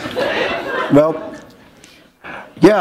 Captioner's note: laughter